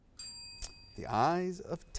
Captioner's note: bell ringing